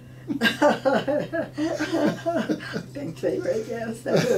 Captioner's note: laughing